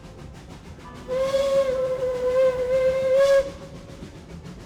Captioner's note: train whistles